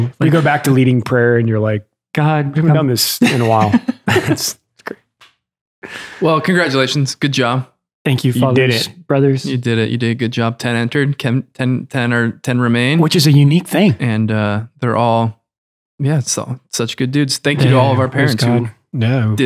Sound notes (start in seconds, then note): 2.8 Father Innocent laughs